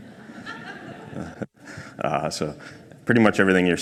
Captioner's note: crowd laughs